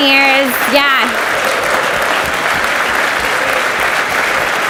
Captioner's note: audience applauds